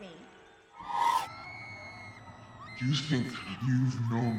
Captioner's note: people screaming